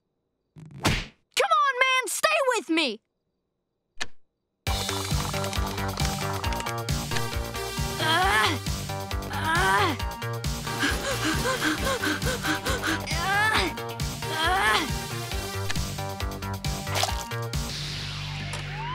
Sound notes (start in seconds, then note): 7.5 grunting; 10.8 panting; 12.7 grunting